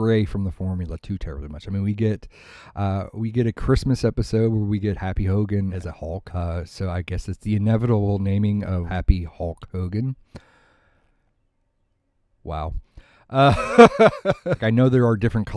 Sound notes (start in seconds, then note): 10.3 long pause; 13.4 laughs